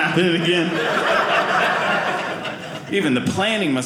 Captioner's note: audience laughing